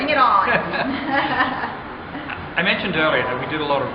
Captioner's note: laughing